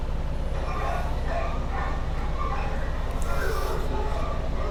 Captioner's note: dogs barking